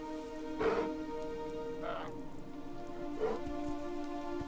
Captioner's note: suspenseful music; bear growls